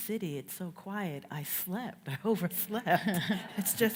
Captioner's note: everyone laughs